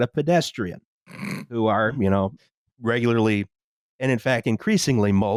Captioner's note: snorts